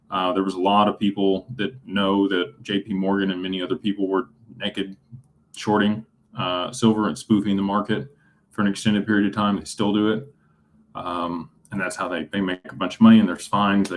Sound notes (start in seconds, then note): none